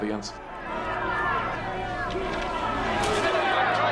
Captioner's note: people shouting